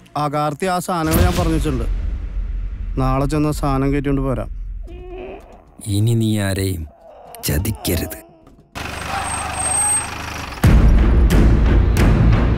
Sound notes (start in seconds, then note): 8.8 engine Stops